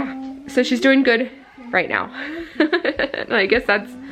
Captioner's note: laughing